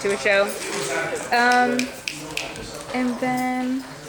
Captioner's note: snapping